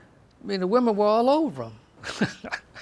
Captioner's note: chuckles